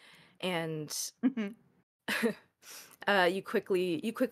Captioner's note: laughs